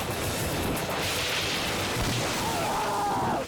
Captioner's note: branches break